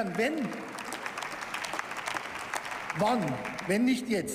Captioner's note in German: Beifall